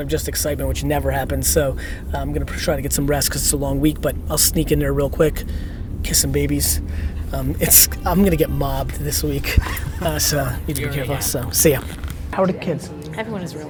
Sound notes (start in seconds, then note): 6.2 laughs; 9.5 laughter